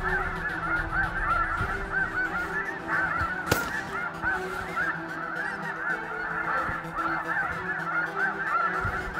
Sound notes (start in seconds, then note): 0.0 goose calls; 3.4 gun shot; 4.4 goose calls